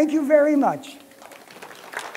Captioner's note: applause